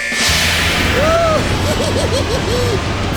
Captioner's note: evil laugh